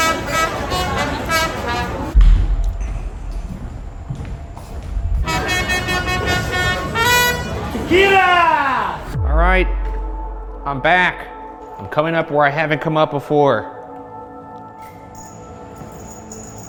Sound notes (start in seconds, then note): 0.0 staccato jazzy music; 2.1 footsteps padding; 5.1 staccato jazzy music continues